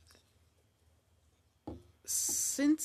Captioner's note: speaking French